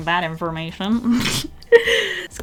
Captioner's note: snort